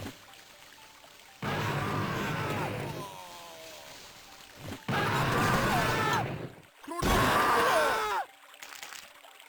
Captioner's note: explosions, cultists screaming